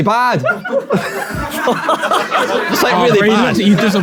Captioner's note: people in room laughing